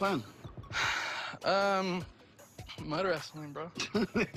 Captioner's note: sighs